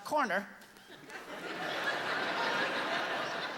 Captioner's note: laughter